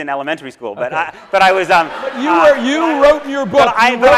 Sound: audience laughs

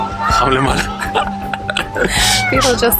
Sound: laughter

